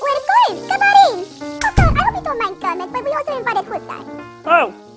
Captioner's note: door closes